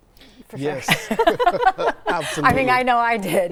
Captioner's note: all laugh